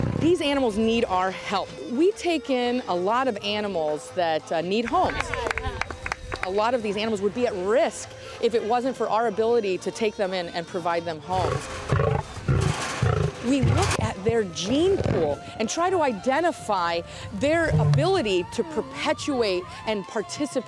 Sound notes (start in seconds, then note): 11.4 lion growls